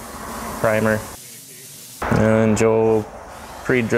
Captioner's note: spray sounds